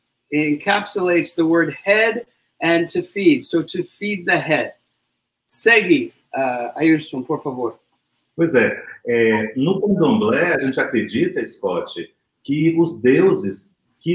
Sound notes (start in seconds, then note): 5.6 speaks portuguese